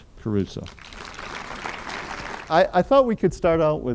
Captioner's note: group applause